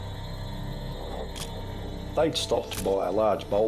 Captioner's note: camera shutter click